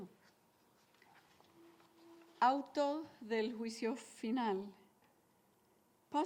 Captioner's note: woman speaking Spanish